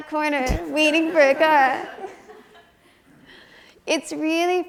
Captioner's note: audience chuckles